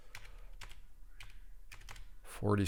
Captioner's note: keyboard clicking